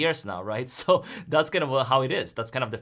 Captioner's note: chuckles